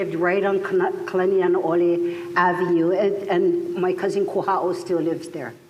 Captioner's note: none